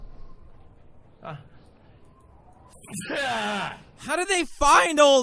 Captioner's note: sneeze